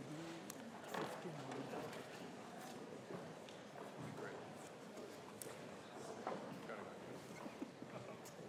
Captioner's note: background chatter